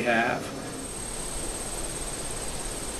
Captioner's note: outdoor ambiance